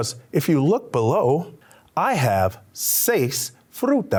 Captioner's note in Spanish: habla español